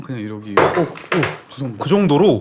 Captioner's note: thump